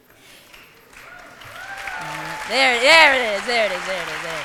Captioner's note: applause